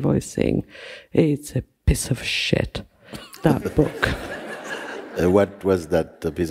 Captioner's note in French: rires